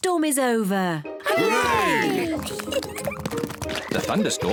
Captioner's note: oinks; kids giggle